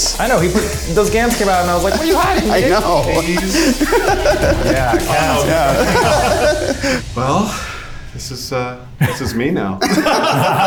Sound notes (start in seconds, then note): 4.4 laughs; 6.3 everyone laughs